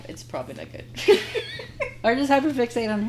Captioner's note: laughing